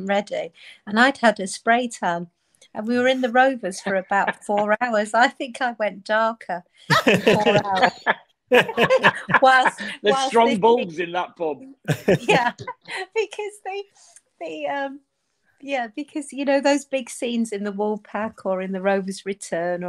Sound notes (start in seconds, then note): 8.5 group laughing